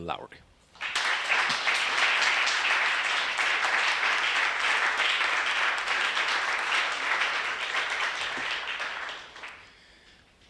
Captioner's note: applause